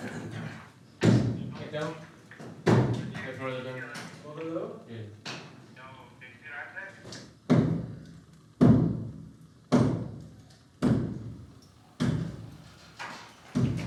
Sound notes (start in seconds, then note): 3.0 men speaking faintly